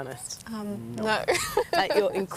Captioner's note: laughing